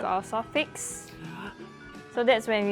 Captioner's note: gasp